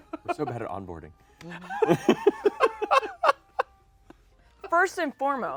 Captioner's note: laughs; laughs